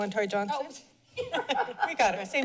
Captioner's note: laughs